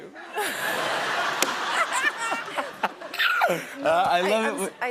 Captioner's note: laughter